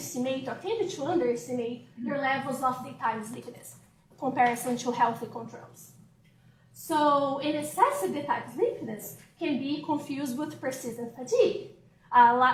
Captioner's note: off microphone